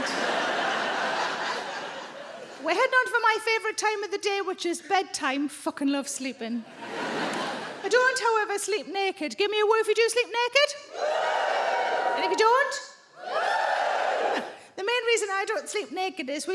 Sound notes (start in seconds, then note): 0.0 audience laughing; 6.7 audience laughing; 10.9 audience woos